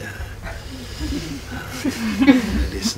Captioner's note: soft laughter